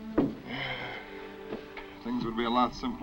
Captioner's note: melancholy orchestral music; Gilman sighs